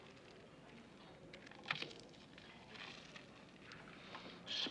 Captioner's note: crunch